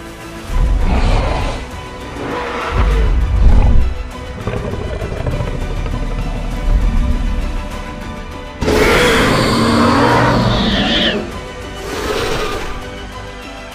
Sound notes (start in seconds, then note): 0.4 Indominus Rex Low Rumble and Roar